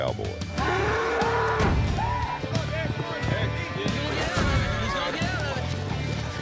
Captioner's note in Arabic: صوت الثور